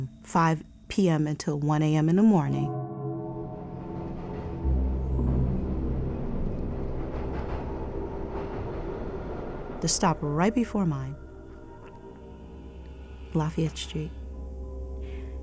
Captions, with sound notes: 5:00 p.m. until 1:00 a.m. in the morning. [foreboding music playing] [subway tracks rattling] The stop right before mine, Lafayette Street,